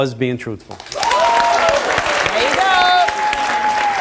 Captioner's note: audience applauds